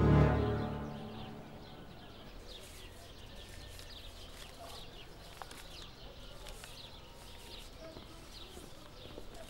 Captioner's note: birds chirping noises